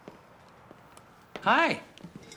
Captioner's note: footsteps approaching